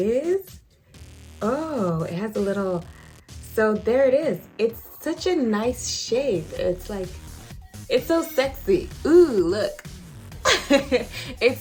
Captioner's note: laughs